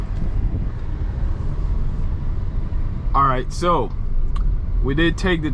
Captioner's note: wind blowing